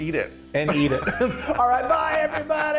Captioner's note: laugh